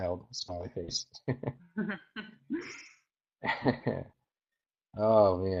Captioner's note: both chuckling